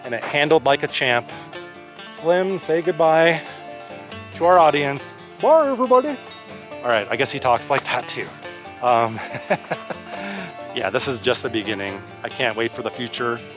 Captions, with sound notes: It handled like a champ. Slim, say goodbye to our audience. [Deeper voice] Bye, everybody. Alright, I guess he talks like that too. [Laughter] Yeah, this is just the beginning, I can't wait for the future.